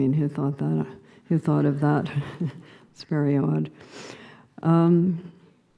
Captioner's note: laughing